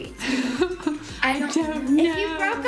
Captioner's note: laughing